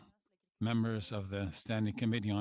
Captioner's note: speaking French